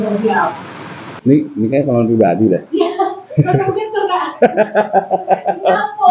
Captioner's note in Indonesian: tertawa